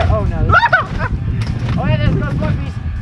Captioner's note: exclaims loudly